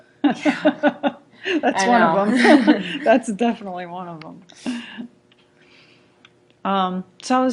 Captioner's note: laughs